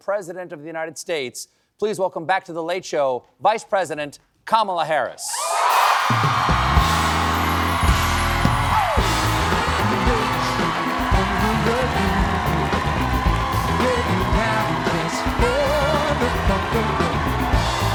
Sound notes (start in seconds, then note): 7.5 cheers and applause